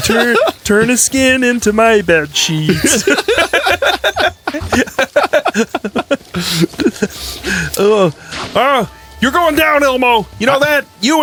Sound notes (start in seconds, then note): 1.7 keeps laughing